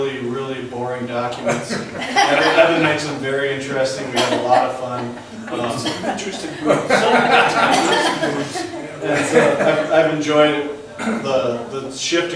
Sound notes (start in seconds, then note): 6.0 voiceover; 7.7 laughs